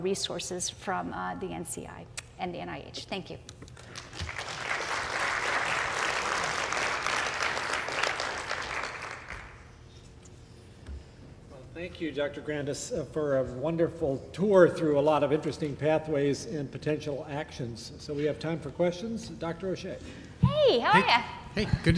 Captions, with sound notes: THE BROAD AND LOTS OF RESOURCES FROM THE NCI AND THE NIH. THANK YOU. [APPLAUSE] >> THANK YOU, DR. GRANDIS, FOR A WONDERFUL TOUR THROUGH A LOT OF INTERESTING PATHWAYS AND POTENTIAL ACTIONS. SO WE HAVE TIME FOR QUESTIONS.